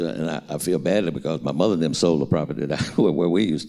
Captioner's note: chuckles